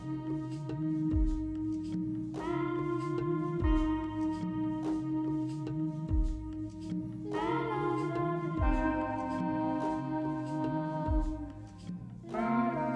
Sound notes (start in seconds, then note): 0.8 woman humming